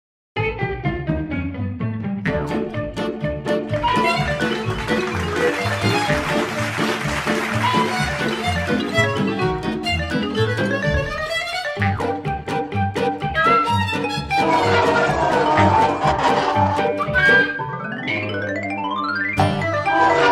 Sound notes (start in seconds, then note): 0.2 lively music; 3.7 applause; 8.9 lively music; 14.4 dragging noise; 17.0 lively music; 19.7 dragging noise